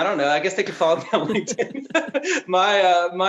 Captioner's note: laughing